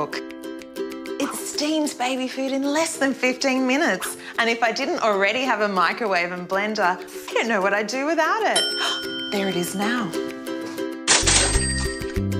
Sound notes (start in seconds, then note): 7.4 ting!; 7.8 gasps